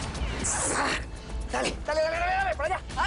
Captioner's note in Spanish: Disparos